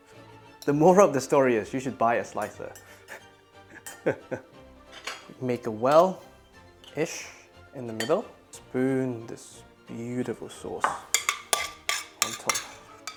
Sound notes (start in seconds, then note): 3.7 laughing